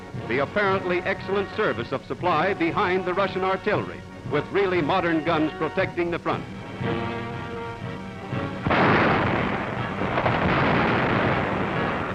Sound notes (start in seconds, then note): 6.6 intense music; 8.4 bombs booming